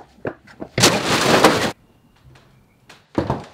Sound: loud crash

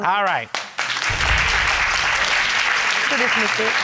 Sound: audience applauds

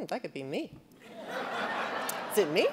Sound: audience laughing

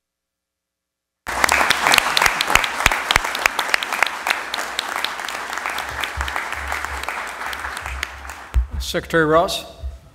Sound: applause

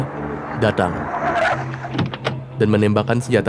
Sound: sound of a car door opening

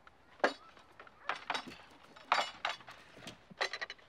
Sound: dishes clatter

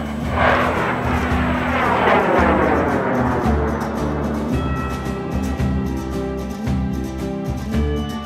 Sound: rocket Launching

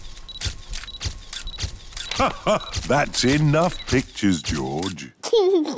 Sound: laughs; giggles

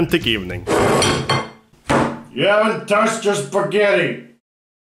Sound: plate slides, palm slaps table

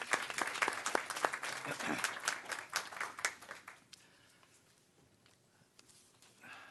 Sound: applause

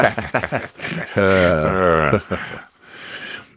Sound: both laughing

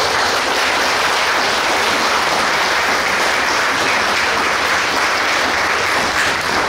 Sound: clapping and cheering

